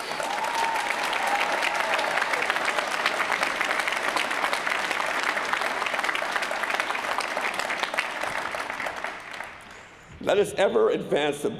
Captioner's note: applause